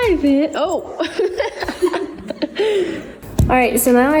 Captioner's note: laughs